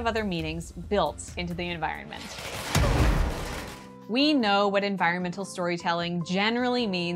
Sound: explosion

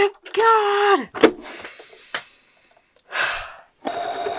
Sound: big exaggerated sigh

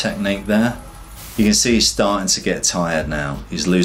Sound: air whooshes

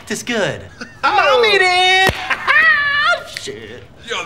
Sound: cackling

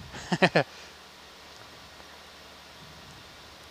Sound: laughing

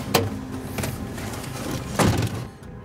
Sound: door bangs

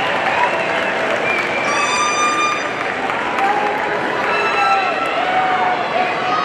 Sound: audience cheering and applauding continues

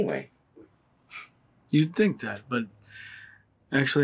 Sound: chuckles

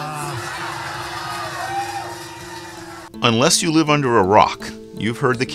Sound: applause

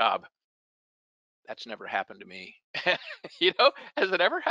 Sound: laughs

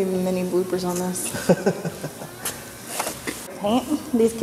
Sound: laughs

